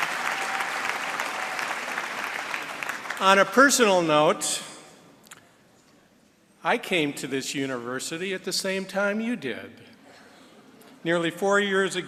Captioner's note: applause